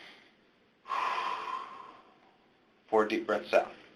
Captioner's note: deep breathing